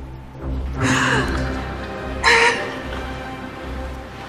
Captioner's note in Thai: เสียงร้องไห้